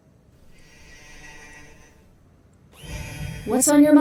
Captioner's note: Ace sighs